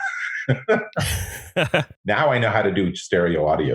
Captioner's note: laughs